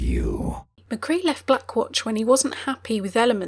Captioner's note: voiceover